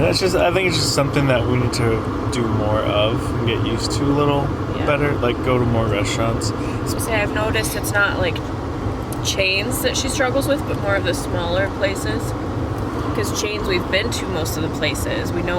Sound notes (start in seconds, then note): none